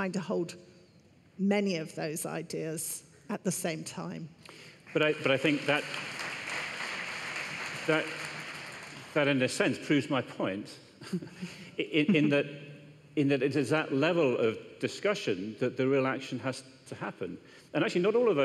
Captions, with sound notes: THINK FOR MANY INDIVIDUALS, WE ARE TRYING TO HOLD MANY OF THOSE IDEAS AT THE SAME TIME. [ APPLAUSE ] >> BUT I THINK THAT IN A SENSE PROVES MY POINT. IN THAT IT IS AT THAT LEVEL OF DISCUSSION THAT THE REAL ACTION